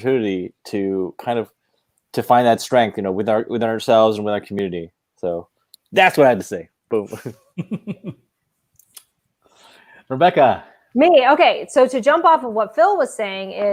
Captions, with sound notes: to kind of find that strength, you know with ourselves with our community. So that's why I have to say. Boom. (laughing) - Rebecca. - Me, okay. So to jump off of what Phil was saying is